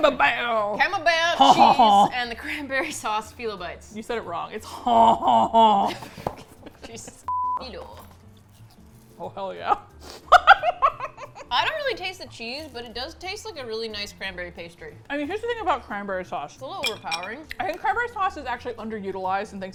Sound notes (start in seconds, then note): 4.7 laughs; 6.3 box fumbles; 10.4 laughs with delight